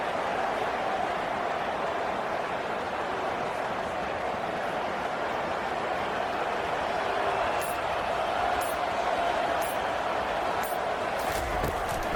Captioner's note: crowd Noises